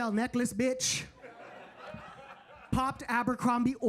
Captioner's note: audience laughing